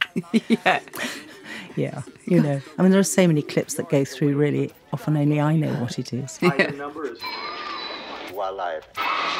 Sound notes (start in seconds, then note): 0.0 laughs; 6.4 laughs; 6.6 journalist chattering